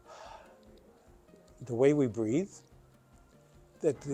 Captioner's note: sighs